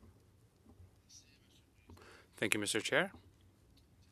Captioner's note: speaking French